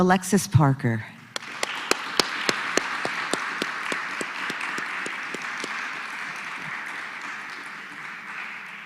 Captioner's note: applause